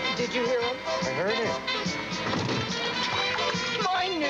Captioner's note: <i> splashing</i>